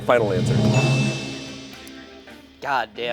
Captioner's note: bell chimes